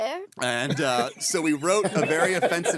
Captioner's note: laughing